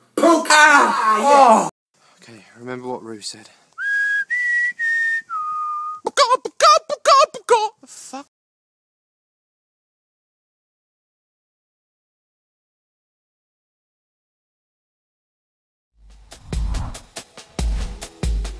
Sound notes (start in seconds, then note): 3.7 whistling; 6.0 imitating a chicken